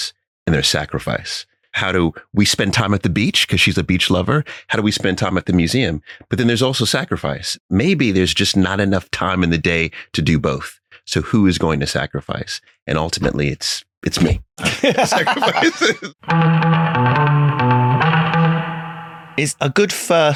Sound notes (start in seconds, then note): 14.6 laughing